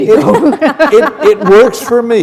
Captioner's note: laughter